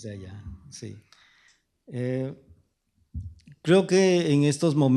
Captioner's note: speaking spanish